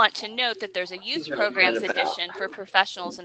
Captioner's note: man speaking off mic